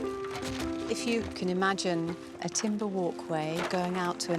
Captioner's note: gentle music; wood cracking